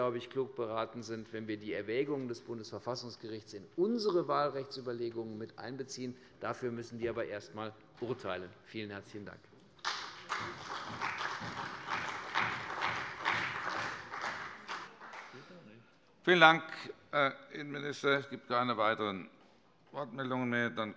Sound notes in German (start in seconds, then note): 9.8 Beifall bei der CDU und dem BÜNDNIS 90/DIE GRÜNEN